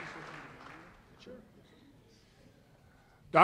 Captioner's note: voiceover